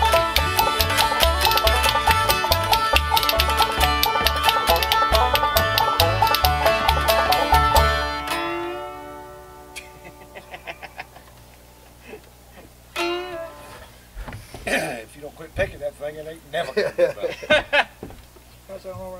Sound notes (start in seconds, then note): 8.0 music ending; 9.7 man laughing; 16.5 men laughing